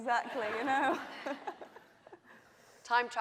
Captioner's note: laughing